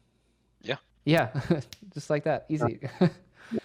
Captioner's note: chuckles